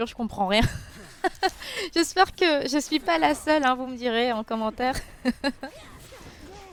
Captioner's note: laughs